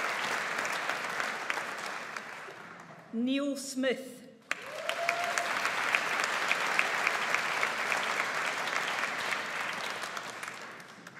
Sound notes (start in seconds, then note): 4.4 audience applauds